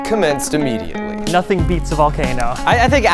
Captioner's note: hands smacking